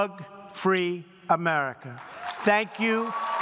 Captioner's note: applause